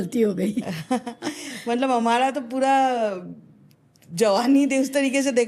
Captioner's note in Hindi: हंसी